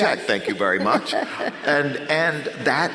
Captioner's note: laughs